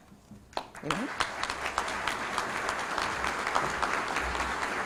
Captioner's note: applause